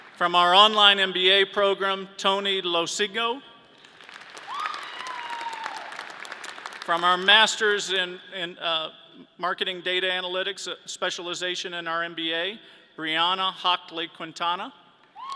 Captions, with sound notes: From our online MBA program, Tony Lo Cigno. (audience cheering) From our masters in marketing data analytics specialization in our MBA, Brianna Hankla-Quintana.